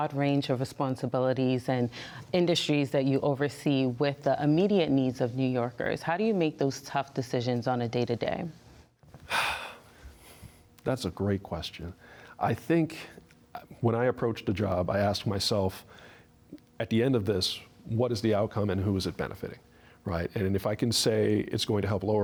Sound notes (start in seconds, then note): 9.2 sighs